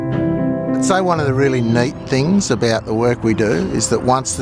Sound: voiceover

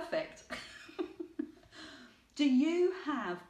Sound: laughing

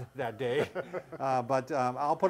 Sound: chuckling

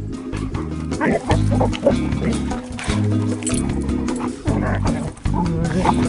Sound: lounge music; dogs barking and growling

